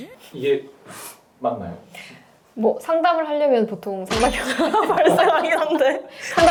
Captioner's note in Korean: 웃음